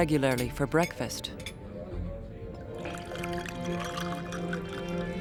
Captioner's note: water being poured into a glass